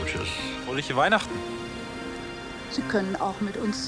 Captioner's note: speaking german